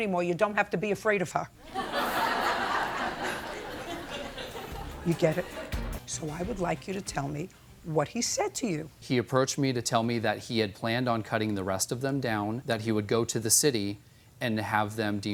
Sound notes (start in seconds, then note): 1.6 laughter